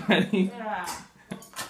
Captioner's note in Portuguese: risos